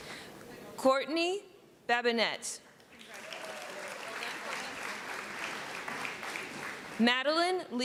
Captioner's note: applause